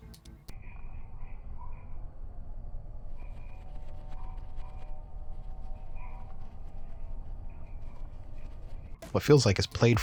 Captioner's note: frog noises